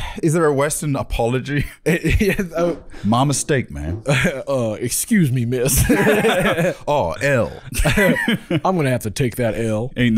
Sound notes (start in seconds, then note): 3.0 southern accent